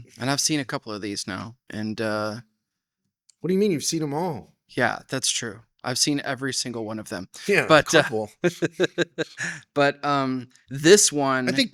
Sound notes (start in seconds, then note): 8.4 laughing